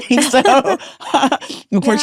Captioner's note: both laughing